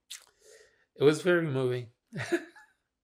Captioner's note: laughing